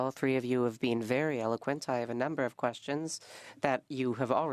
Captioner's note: speaking French